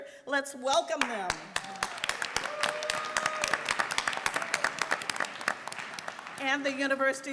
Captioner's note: applause and Cheering